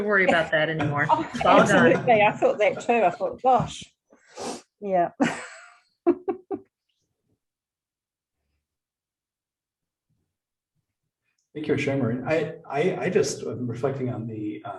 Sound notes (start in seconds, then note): 0.1 laughter; 10.1 chuckle